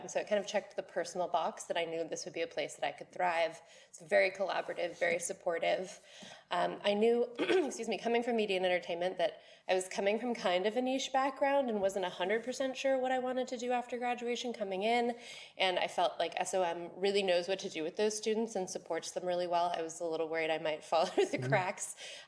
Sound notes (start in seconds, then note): 7.4 clears throat